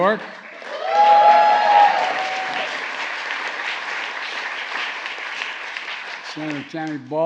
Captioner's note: applause